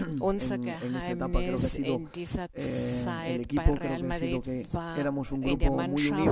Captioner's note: coughs